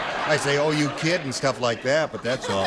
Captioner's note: laughter